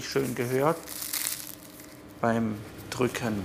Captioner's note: crunchy